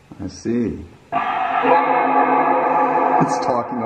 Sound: static sounds like "Welcome"

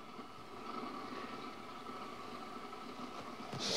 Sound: steam hisses

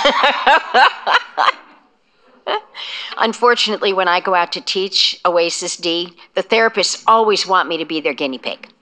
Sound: laughter

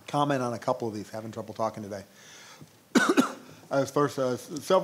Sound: coughing

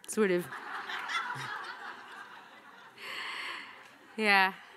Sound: audience laughing

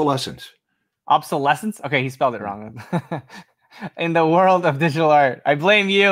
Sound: laughs

